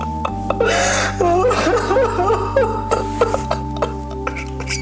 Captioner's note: sobs loudly